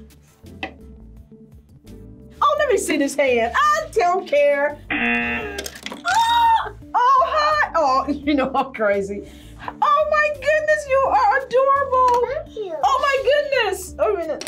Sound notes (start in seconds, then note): 4.9 buzzer